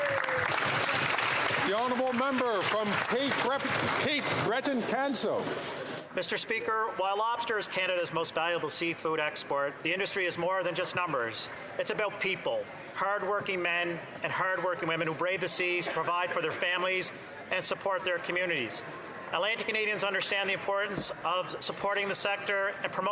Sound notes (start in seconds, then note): 4.7 some Applause